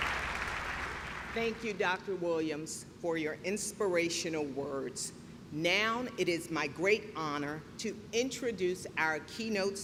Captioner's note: clapping